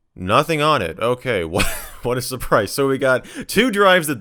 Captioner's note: laughs